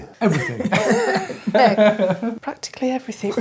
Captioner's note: both laugh